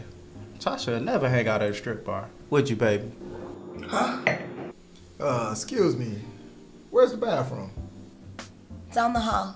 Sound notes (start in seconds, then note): 3.8 James sighs